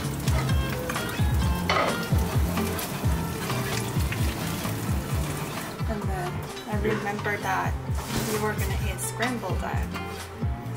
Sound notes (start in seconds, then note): 1.4 hurried stirring